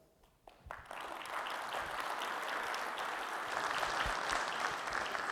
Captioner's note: audience applauding